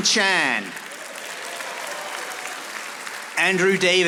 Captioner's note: audience applauding